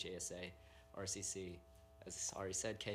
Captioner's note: none